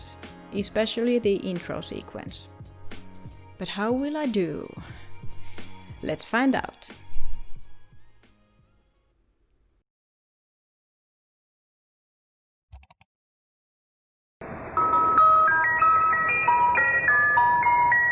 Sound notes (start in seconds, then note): 12.8 𝘥𝘰𝘶𝘣𝘭𝘦-𝘤𝘭𝘪𝘤𝘬